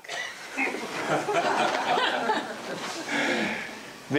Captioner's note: laughing